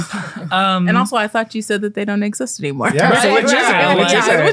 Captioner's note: sarcastically